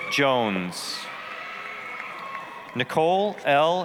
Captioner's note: applause, cheering